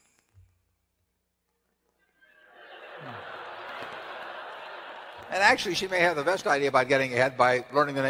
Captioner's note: laughter